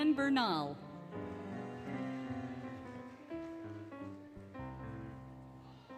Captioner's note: applause, Cheering, Music